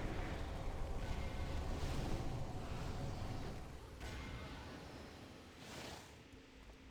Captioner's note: water sounds